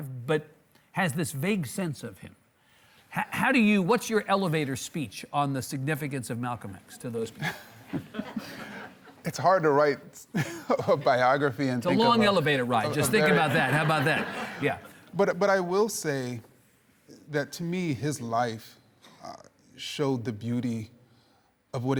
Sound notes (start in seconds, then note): 7.8 laughs; 7.8 audience laughing